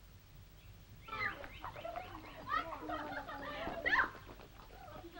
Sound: girls clamoring

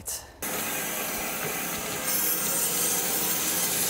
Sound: saw blade humming

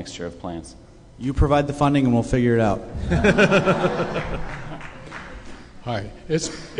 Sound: laughter

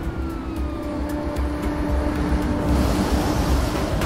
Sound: police siren

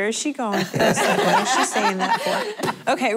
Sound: laughter

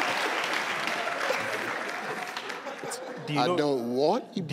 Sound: audience clapping

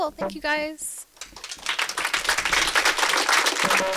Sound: applause

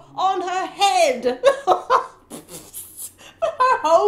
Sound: giggling

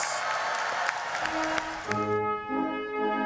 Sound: cheering and applause; stately orchestral music

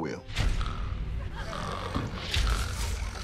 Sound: dramatic music; snoring; audience laughter; snoring continues

